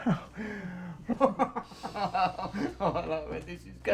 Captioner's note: laughs